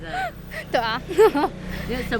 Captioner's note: laughs in forced positivity